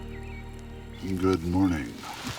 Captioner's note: birds chirping